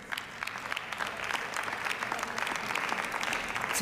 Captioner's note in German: Beifall